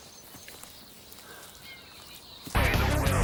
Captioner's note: birds chirping; heavy metal music